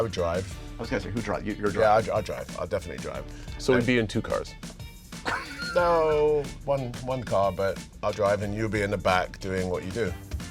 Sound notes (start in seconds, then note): 5.2 laughter